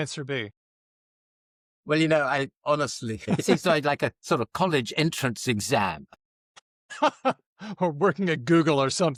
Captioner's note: laughter